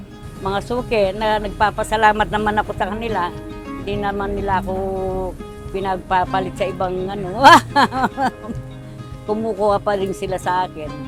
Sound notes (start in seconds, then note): 7.4 laughs